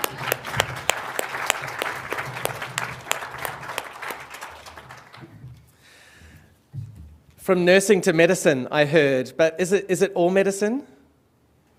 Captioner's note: applause